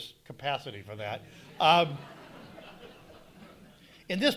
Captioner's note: audience laughing